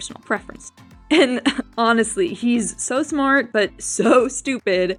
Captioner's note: laugh